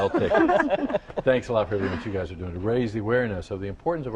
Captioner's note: laughter